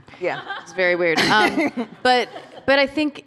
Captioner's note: laughter